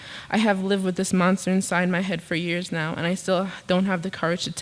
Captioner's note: none